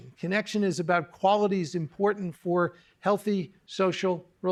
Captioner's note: none